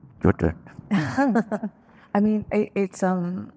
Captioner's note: laughing